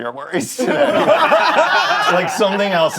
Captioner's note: all laughing